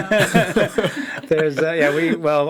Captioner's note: all laugh